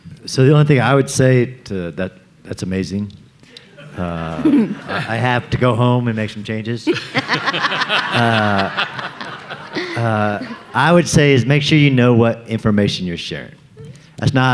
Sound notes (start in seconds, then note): 3.6 audience laughing; 6.8 everyone laughing